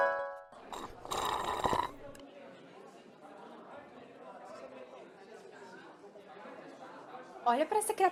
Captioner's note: noise of people talking